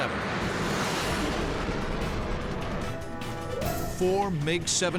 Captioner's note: jet engine noises